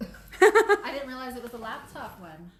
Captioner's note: laughs